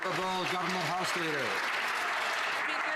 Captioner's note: some Applause